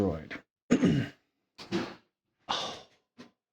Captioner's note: clears throat